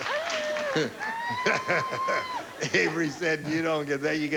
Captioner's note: chuckling